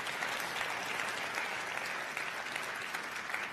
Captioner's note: crowd applauding